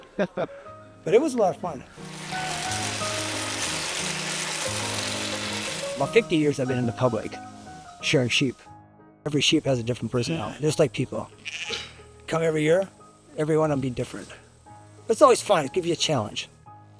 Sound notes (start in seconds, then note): 2.0 machine buzzing